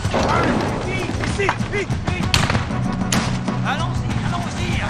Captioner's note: guns banging; soldiers shouting in French; guns banging